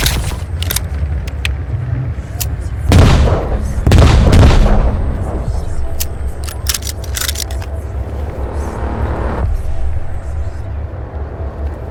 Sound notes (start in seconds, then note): 2.9 gun blaring; 5.8 guns clicking; 9.0 pensive music